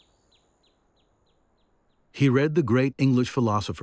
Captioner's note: birds chirping